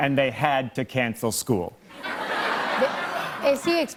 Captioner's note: laughter